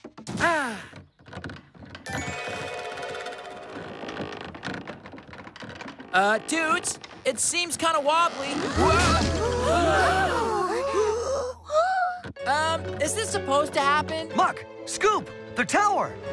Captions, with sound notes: AH... ( Wood Creaking ) UH, DUDES, IT SEEMS KIND OF WOBBLY. WHA--!! ( All Gasp! ) UM... IS THIS SUPPOSED TO HAPPEN? MUCK! SCOOP! THE TOWER!